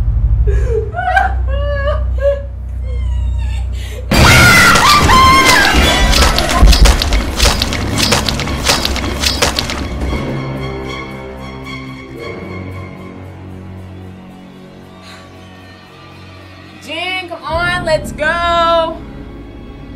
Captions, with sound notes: (tense music) (Lisa screams) (tense music) - Jenn, come on. Let's go.